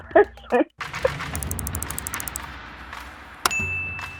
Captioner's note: typewriter clicking; bell dings